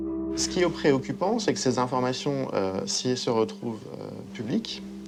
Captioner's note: speaking in foreign language